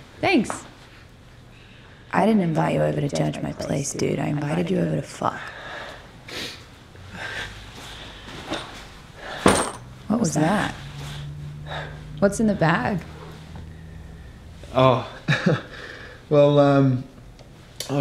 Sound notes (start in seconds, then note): 9.5 metallic sound from bag